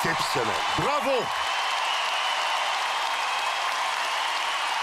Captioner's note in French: applaudissements